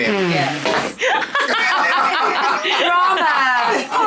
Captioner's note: everyone laughing